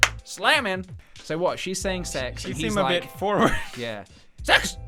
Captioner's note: giggle